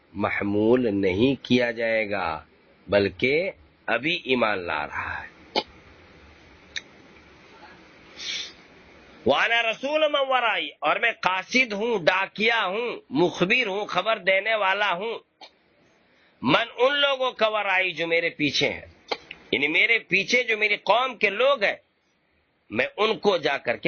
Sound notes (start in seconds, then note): 5.5 clears throat